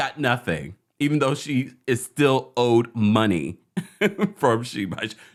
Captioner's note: laughs